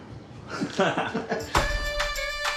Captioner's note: laughing; upbeat folksy music